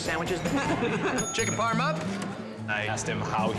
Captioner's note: bell dings